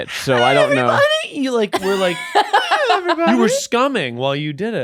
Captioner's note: laughing